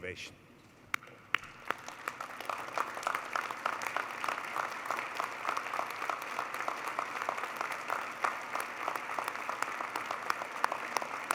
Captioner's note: applause